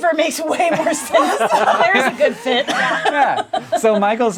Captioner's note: all laughing